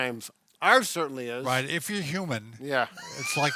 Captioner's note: laughs